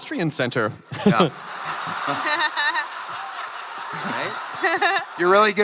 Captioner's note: crowd laughing